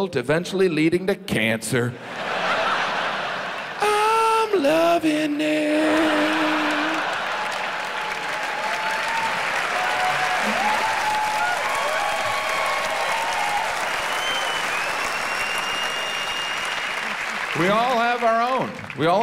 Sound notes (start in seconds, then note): 2.0 audience laughs; 5.7 audience laughs; 9.2 audience cheers